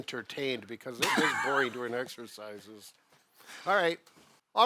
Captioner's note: coughs